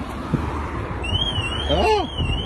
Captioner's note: alarm